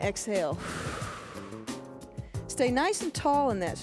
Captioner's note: breath hisses